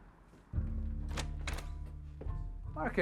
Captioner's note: door clacking